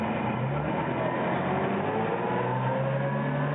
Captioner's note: engine rumbling